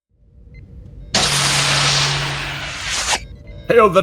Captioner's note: turbolift door